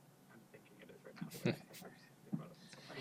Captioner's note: laughs